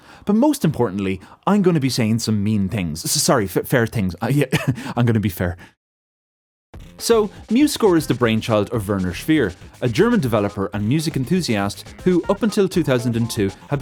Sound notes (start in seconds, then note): 4.5 chuckles